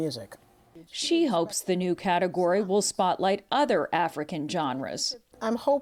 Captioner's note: voice-over